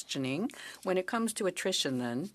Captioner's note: speaking French